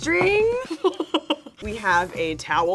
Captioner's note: laughing